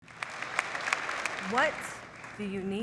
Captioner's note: audience applauding